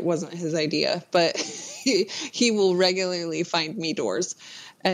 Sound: laughs

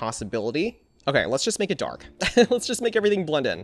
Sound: laughs

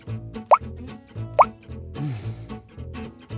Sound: gentle music; water drops patters; gentle music

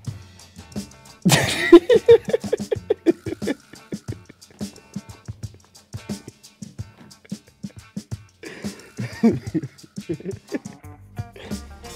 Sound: laughing

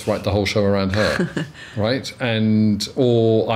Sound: laughs

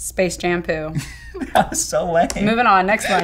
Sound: laughing

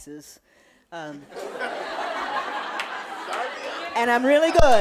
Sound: audience laughing

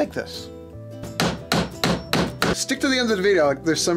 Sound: hammering

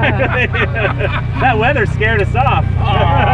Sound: laughs

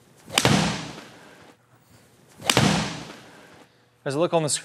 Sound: swish of golf club; click of golf ball being hit; thud of golf ball hitting the wall

